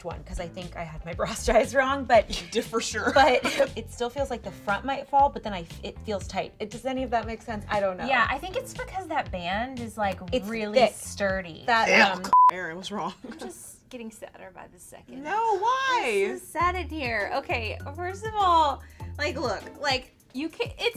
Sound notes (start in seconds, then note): 11.8 laughs; 12.3 beeping